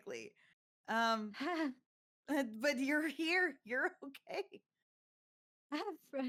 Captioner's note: chuckles